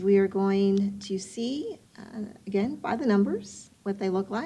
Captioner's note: none